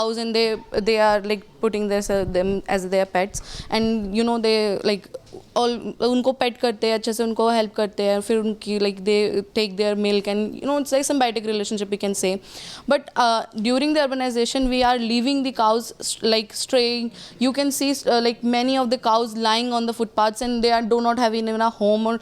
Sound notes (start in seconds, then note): 4.4 speaks Hindi